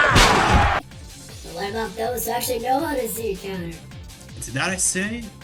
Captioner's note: pitch-shifted mocking voice that sounds more Martian than ever